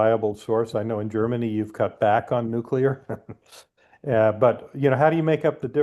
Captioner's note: chuckles